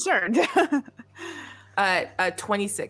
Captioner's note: laughing